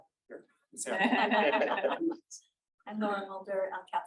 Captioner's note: everyone laughing